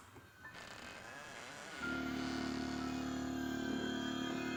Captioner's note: door creaking